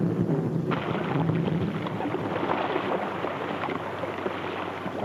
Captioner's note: water splashes